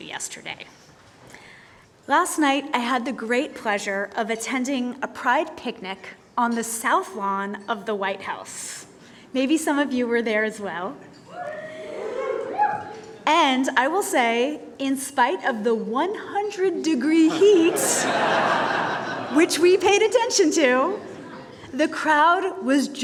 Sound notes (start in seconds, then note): 11.3 cheers; 17.2 laughter